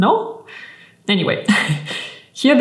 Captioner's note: chuckling